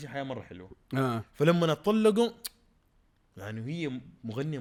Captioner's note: tsks